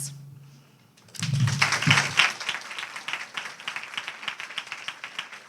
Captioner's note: audience applauding